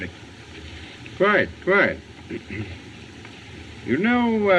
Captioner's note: clears Throat